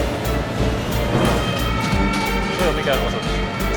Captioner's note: sound of sirens